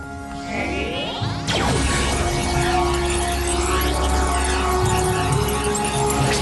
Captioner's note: whoosh